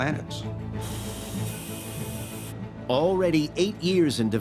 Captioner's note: machinery humming